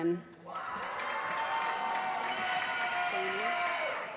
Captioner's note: applause